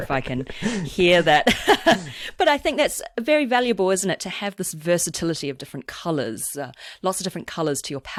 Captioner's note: laughs